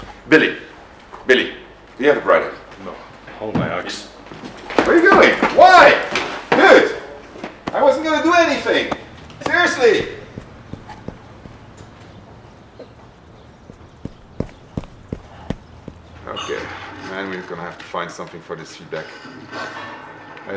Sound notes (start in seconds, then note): 10.5 footsteps